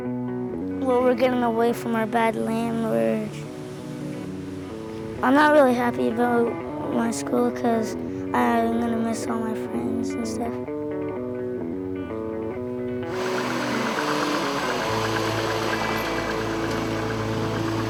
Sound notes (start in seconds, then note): none